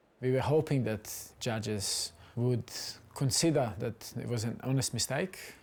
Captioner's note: none